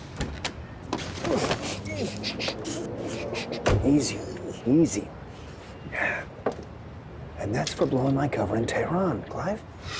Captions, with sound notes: -(MAN GRUNTING) -(ROSS SHUSHES) Easy. Easy. Yeah, and that's for blowing my cover in Tehran, Clive.